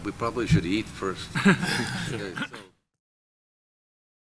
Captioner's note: chuckling